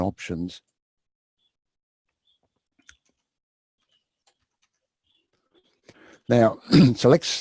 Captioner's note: pause